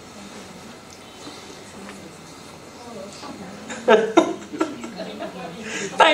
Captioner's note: speaker Laughing